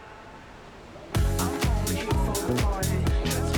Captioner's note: bar crowd ambience